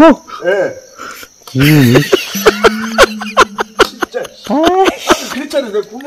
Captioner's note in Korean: 웃음